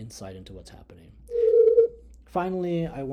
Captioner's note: sound humming